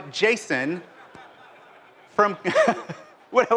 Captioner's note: laughter